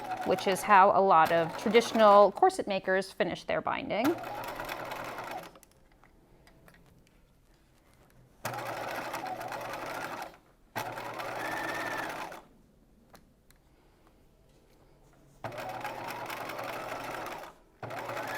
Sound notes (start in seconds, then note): 4.1 machine whirring